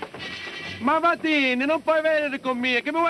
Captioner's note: speaking italian